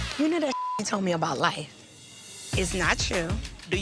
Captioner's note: beep